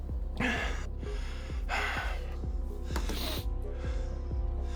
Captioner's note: David breathing heavily